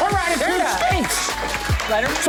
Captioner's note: clapping